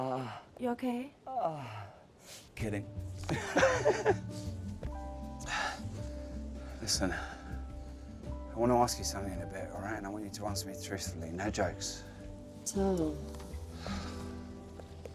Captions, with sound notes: - Ah... - You okay? Ah... Kidding. (laughing) - Listen, I wanna ask you something in a bit, alright, and I want you to answer truthfully, no jokes. - Tom...